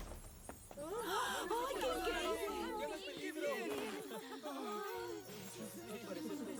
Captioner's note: excited shouts